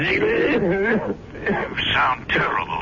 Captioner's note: coughing